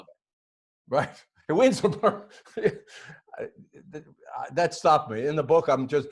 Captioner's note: laughing